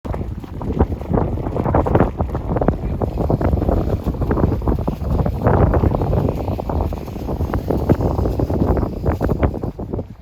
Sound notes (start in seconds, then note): 1.3 wind blowing; 4.3 sand scraping